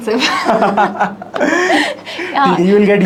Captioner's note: both laughing